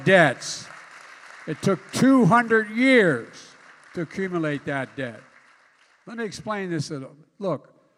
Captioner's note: applause